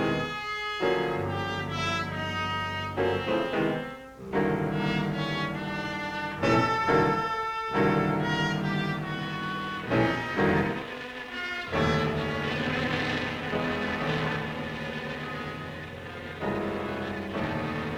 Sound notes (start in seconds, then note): 3.7 suspenseful music; 4.5 engine revs